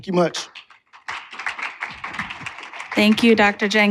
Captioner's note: applause